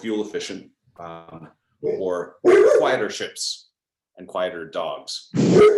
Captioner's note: dog barks